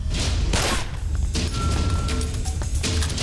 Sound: gun shot

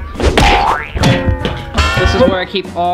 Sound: banging

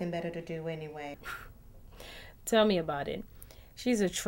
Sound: scoffs

